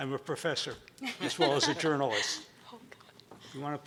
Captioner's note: laughing